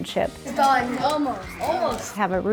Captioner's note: students chattering